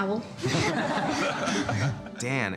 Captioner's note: people laughing